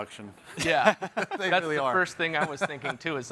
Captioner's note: chuckles